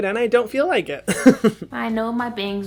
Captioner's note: chuckles proudly